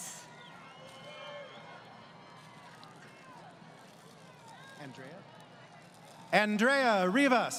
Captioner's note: crowd Cheering